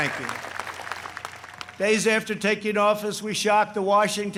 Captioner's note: applause